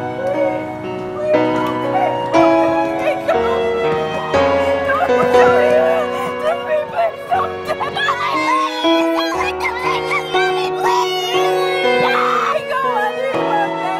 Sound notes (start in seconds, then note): 0.2 woman shouting; 6.2 woman sobbing; 7.5 kids shouting; 12.0 kids shouting